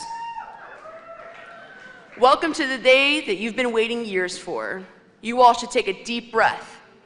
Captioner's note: cheers and applause